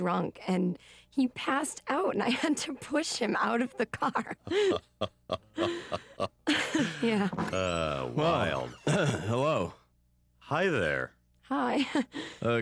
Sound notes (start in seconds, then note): 3.4 laughing; 3.8 giggling